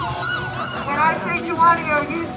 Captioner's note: crowd shouts